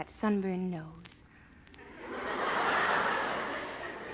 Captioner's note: audience laughing